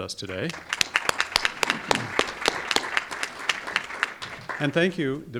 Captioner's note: audience applauding